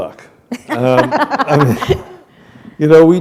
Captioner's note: laughter